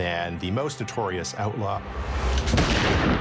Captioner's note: gun firing; suspenseful music